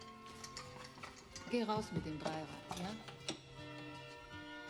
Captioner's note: speaking german